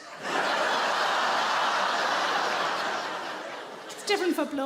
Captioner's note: audience laughing